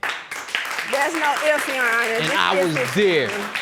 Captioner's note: audience applauding